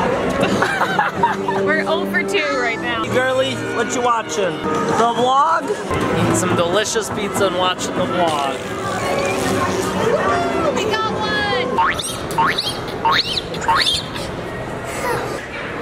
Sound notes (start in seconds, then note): 0.4 laughing; 12.5 bouncing